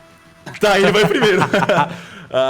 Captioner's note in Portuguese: risada